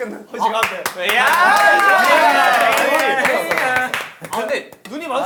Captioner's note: applause pours in right away